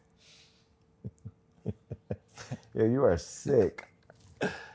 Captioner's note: laughs